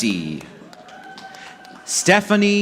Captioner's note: audience clapping